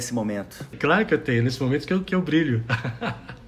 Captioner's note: laughing